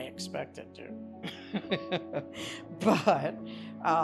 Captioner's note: laughs